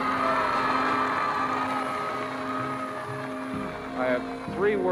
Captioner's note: onlookers cheering